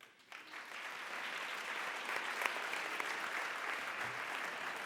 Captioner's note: applause